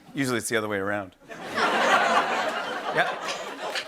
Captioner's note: laughter